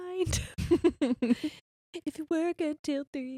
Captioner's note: laughing